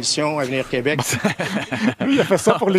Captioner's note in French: rires